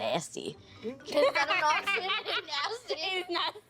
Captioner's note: laughing